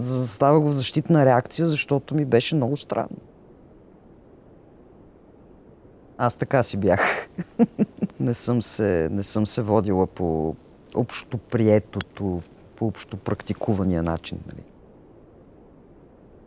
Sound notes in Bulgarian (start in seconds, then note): 6.8 смее се